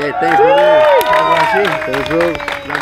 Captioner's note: crowd applauding